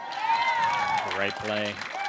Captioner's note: cheers